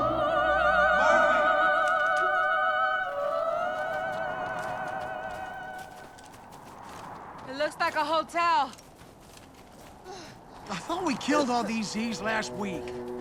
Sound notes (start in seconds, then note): 4.7 wind blowing